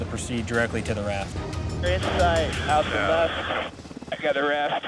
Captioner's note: man Over Radio